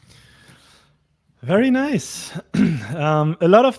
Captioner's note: clears throat